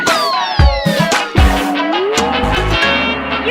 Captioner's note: boing!